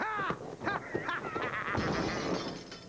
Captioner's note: crashing; laughing